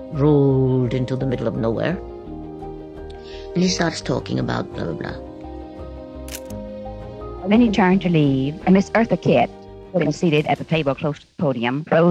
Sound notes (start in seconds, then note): 6.3 camera shutter clicks